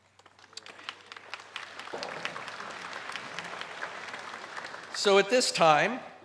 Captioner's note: applause